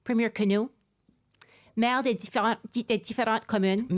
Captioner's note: speaking French